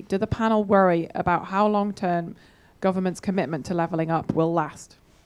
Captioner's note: none